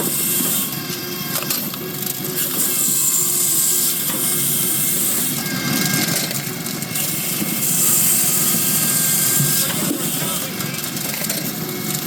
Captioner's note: drill whirring